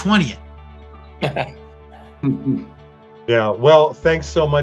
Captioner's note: everybody chuckles